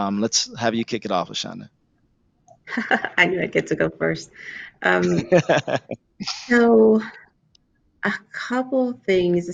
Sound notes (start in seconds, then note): 4.7 laughs; 5.0 Marco laughs